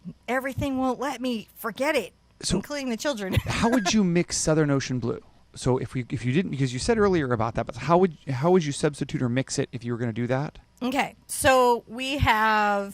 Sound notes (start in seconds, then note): 3.3 laughs